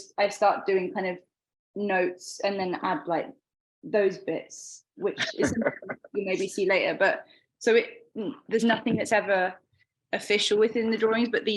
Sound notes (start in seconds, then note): 5.2 laughing